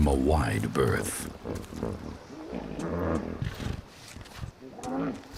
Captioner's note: hippos grunting